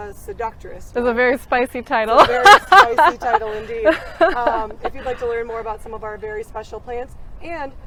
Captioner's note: laughs